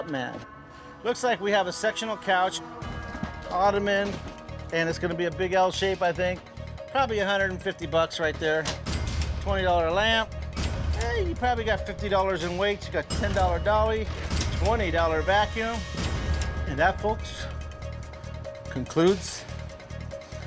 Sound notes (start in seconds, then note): none